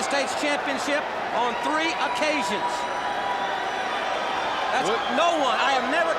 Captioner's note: crowd cheering